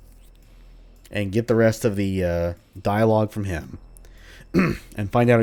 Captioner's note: clears throat